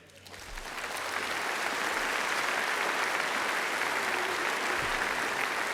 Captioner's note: applause